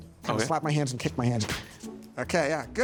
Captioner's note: feet slap